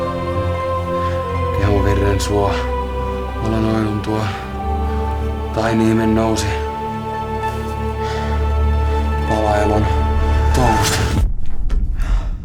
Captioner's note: speaks in Muinein language